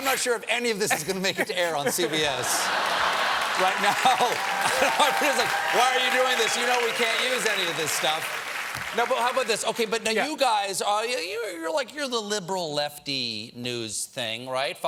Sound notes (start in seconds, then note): 4.6 applause; 4.6 laughter